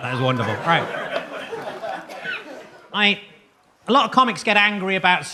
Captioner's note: audience laughs